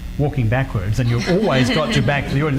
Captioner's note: audience laughs